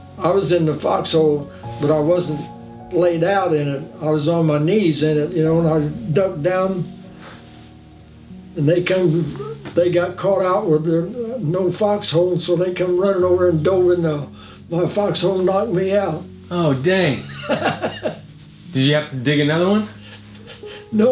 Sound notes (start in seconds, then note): 17.3 chuckling